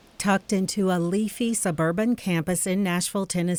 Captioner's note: voiceover